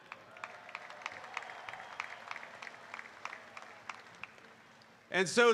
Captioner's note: applause